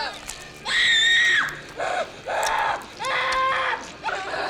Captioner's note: child screaming